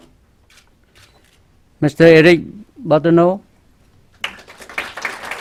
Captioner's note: clapping